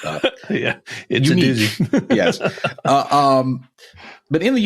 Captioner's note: laughing